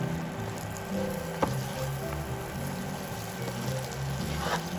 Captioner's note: sizzling